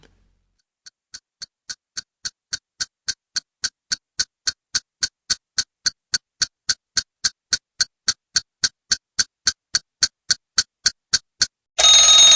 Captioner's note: sound of clock ticking